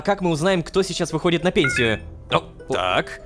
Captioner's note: notification